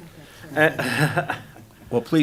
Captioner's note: laughing